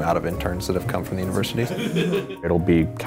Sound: laughing

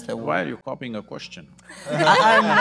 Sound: laughter

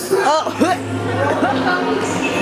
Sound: cough

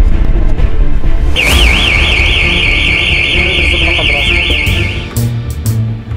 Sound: alarm sound

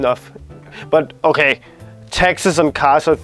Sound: sarcastic

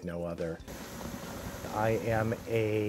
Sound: boat Motor Revs

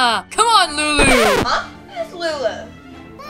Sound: record scratching

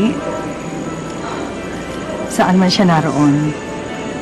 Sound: sighs

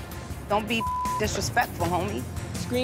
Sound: beep

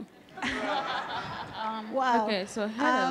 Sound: audience laughing

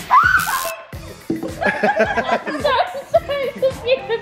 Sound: lady screams

